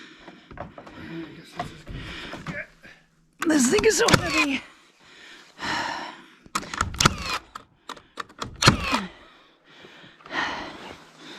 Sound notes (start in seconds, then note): 1.0 exertive grunt; 5.1 heavy sigh